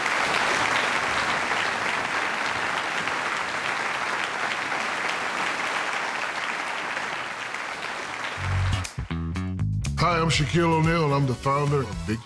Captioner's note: applause